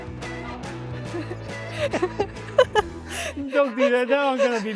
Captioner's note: laughing